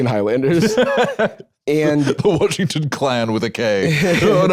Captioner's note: laughs